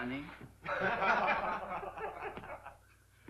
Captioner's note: laughter